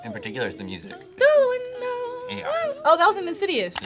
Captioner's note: hums